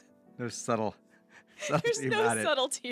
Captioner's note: laughs